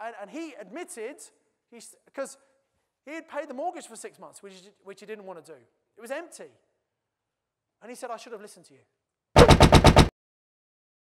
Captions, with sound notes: And he admitted, 'cause he had paid the mortgage for six months which he didn't want to do. It was empty. And he said I should have listened to you. (loud banging sound)